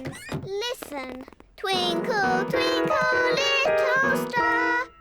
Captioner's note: clunks discordantly